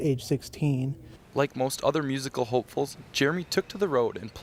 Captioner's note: voiceover